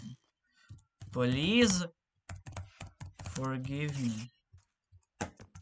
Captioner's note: typing